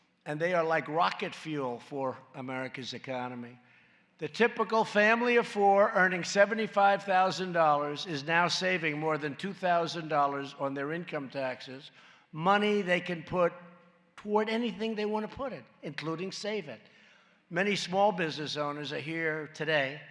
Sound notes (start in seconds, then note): none